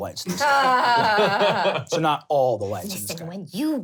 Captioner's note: laughing